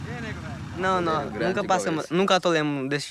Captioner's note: Portuguese spoken audio